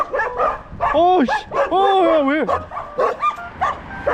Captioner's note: walking quietly and suddenly barking, very startled